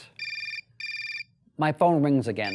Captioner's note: telephone, ring-ring